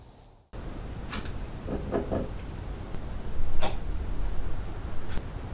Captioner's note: ominous sniffing